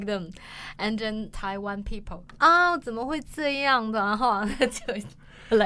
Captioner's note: adopting a Taiwanese accent